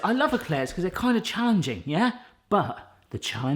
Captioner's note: none